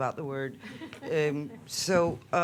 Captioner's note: chuckling